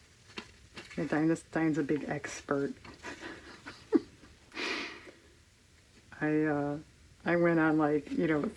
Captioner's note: laughs